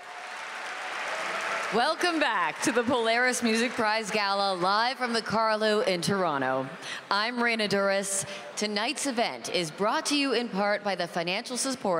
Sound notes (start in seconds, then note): 4.9 applause